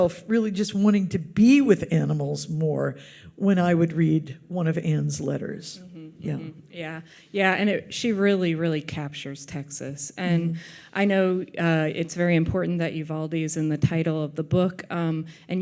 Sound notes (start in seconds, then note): none